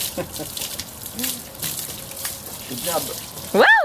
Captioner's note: laughing